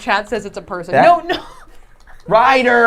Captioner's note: laughing